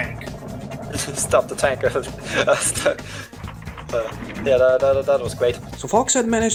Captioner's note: chuckles